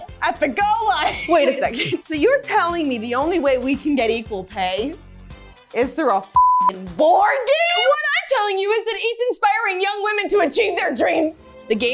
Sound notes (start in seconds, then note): 6.3 beep